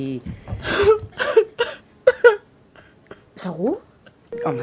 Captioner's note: cries